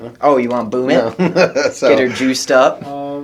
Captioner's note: laughs